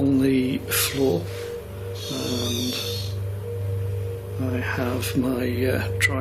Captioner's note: screeching